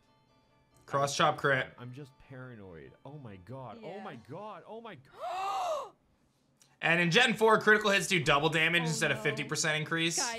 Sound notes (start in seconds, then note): 5.1 gasps